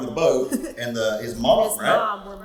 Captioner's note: laughs